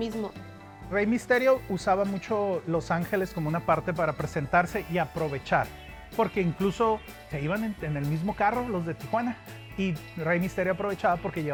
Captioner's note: speaking Spanish